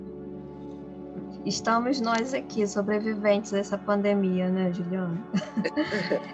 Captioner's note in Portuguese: risos